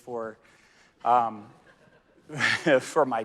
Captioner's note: audience laughing